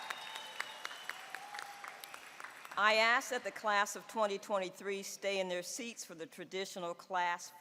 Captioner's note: applause